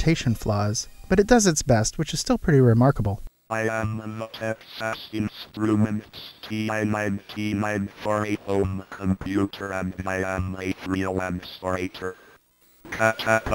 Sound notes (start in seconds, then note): 2.9 computer voice